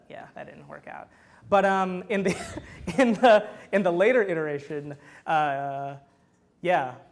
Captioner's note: laughs